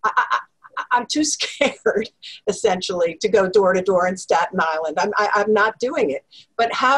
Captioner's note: laugh